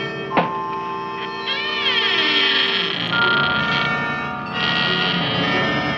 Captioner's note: Audrey Jr. creaking